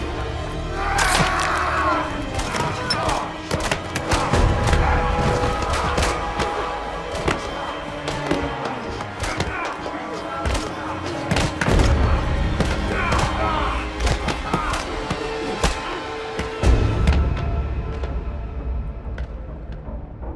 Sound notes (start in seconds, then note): 0.7 William screams; 2.2 blows thudding; 3.7 tense music; 17.6 tense music